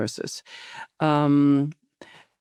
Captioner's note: inhales